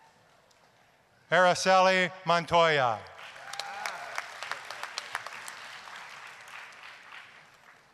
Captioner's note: applause